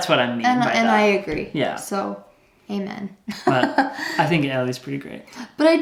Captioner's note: laughs